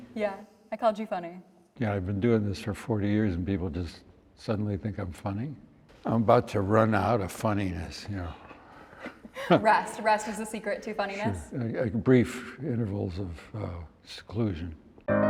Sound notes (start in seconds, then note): 8.9 Harrison chuckles